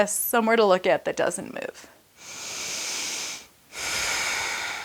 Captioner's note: breaths heavily